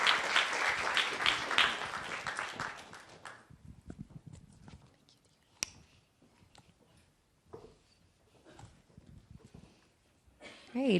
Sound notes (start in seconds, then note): 2.2 applause